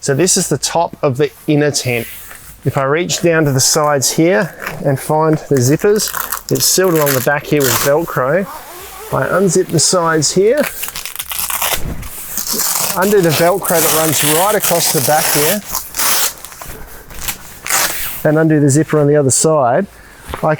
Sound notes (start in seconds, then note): 5.3 velcro tearing; 8.5 zipper squealing; 10.5 velcro tearing